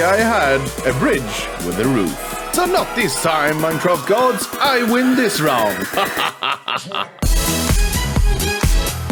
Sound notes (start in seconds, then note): 5.8 evil Laugh